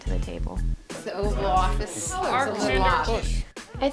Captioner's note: overlapping chatter